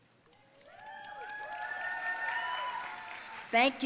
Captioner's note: audience cheering and applauding